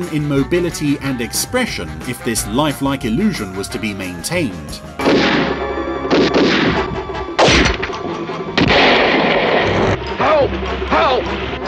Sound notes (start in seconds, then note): 5.0 pistols firing